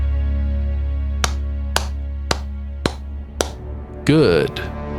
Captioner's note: clap clap clap